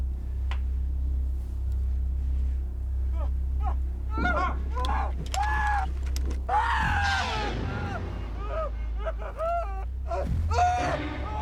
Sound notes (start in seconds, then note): 3.2 man screaming